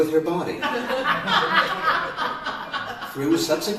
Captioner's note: laughter